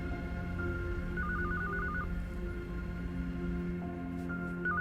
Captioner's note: phone ringing